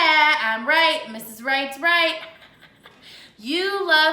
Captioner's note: chuckles